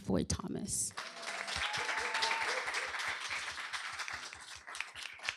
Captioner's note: applause